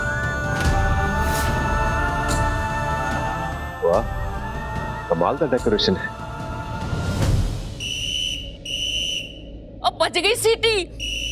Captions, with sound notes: Wow! What amazing decoration. [blowing whistle] The whistle is blowing.